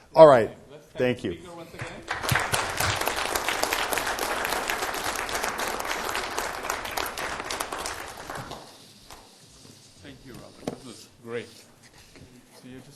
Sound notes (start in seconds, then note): 1.8 applause